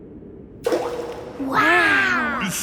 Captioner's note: rock plops